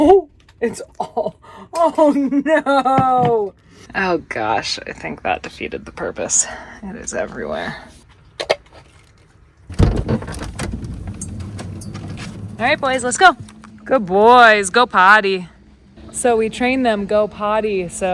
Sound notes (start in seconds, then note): 0.8 laughs